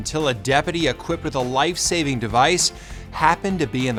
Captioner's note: air whooshes